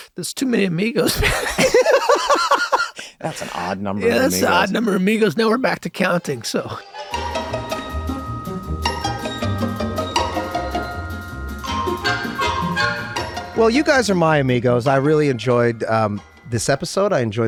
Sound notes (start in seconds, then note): 1.0 group laughs; 7.7 upbeat tune